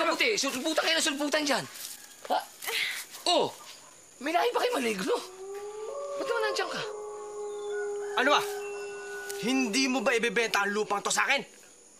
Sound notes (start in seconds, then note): 4.6 wolf howling